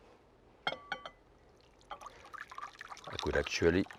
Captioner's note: soup sloshing